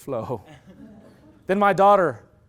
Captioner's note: loud laughter